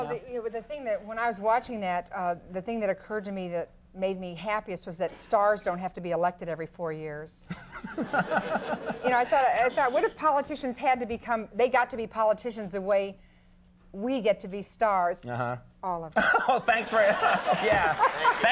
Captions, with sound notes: Well, the thing that, when I was watching that, the thing that occurred to me that made me happiest was that stars don't have to be elected every four years. (Conan laughing) You know, I thought, I thought, what if politicians had to become, they got to be politicians the way we get to be stars, Uh-huh. All of us. (laughing) Thanks for, yeah. (audience applauding)